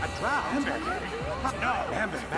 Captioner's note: chattering